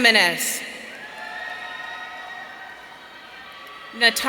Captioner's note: audience cheering